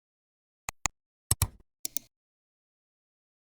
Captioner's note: 3 different clicks